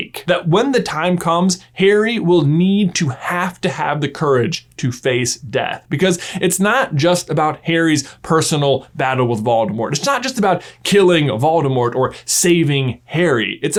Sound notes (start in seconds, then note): none